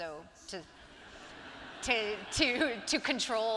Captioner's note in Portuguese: audiência rindo